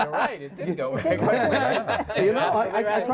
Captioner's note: laughs